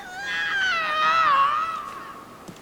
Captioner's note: scream of horror